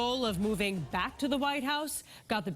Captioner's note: cheers and applause